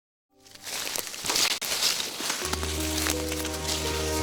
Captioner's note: crunching leaves; dramatic music